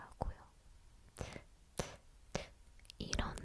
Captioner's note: mouth sounds